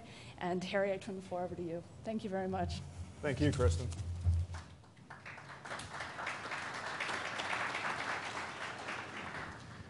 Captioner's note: applause